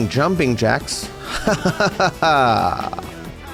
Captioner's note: laughs sarcastically